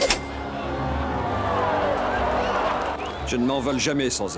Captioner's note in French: rires de la foule